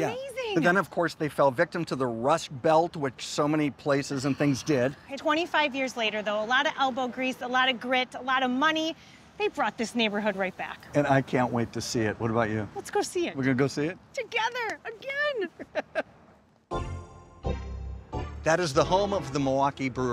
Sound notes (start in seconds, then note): 15.4 laughs; 16.7 soft instrumental music